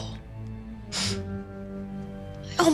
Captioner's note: scoffs